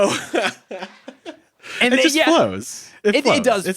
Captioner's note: laughs